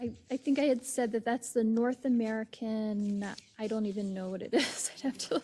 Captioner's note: laugh